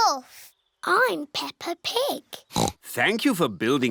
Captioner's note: oinks